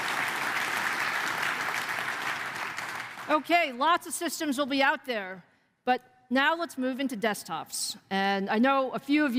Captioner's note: applause